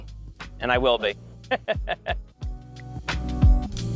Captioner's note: laughing